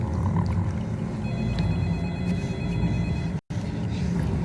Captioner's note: gurgling